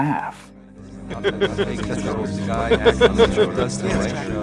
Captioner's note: laughs